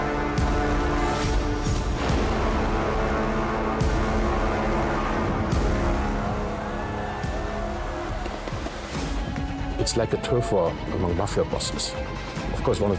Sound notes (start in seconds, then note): 0.0 Vladimir speaks in Russian; 0.0 dramatic music continues; 6.6 pops echo